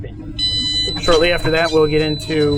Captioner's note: high pitch beeping